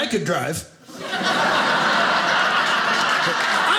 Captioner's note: audience laughing